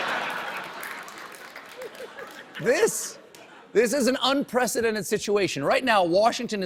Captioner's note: laughter